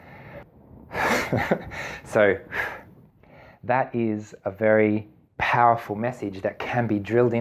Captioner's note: laughing